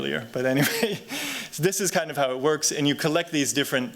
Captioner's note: chuckles